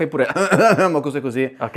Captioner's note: cough